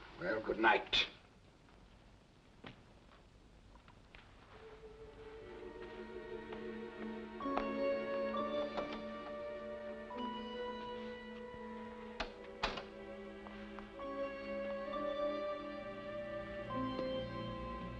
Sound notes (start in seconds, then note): 4.6 ominous music; 12.2 door closes; 13.6 ominous music